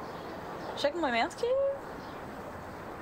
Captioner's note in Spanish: en portugués